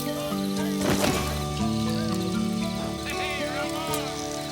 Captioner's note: body thumps